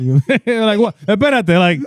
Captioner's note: speaking In Foreign Language